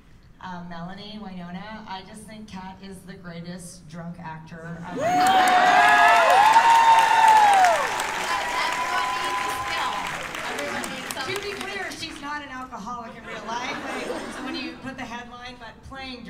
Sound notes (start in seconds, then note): 4.9 cheers and applause